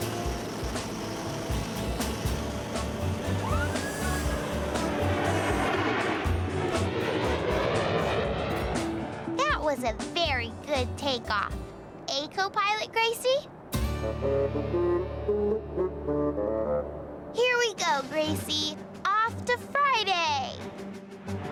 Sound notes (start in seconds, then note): 0.0 whirring; 8.1 horn imitating talking